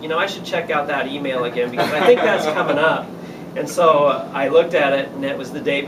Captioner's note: laughter